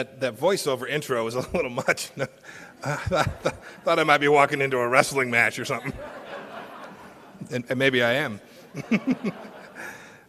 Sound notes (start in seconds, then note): 2.7 laughter; 8.5 laughter